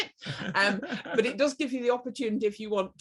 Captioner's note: laughs